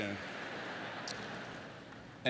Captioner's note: lauaughghteter